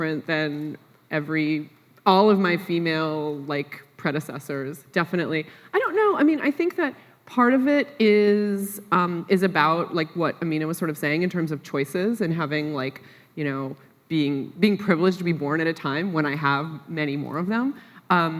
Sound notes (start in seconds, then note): none